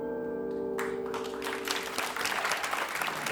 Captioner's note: applause